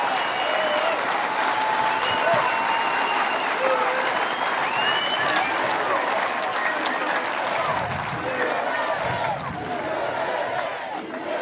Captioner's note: cheers and applause